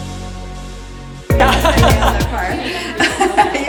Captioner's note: laughing